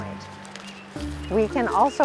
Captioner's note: sound of placing needles in bag